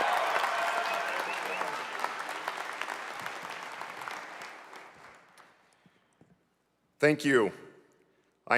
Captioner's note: applause